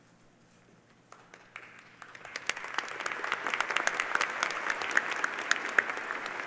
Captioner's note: applause